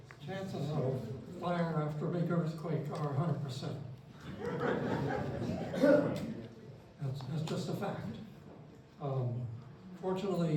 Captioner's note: laughter